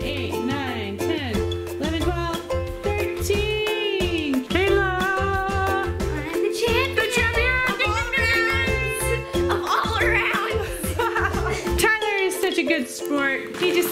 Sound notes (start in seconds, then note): 11.2 laughing